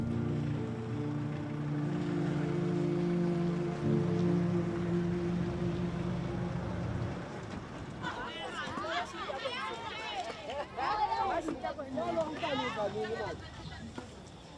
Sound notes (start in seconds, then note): 0.0 vehicle humming; 8.0 people chatting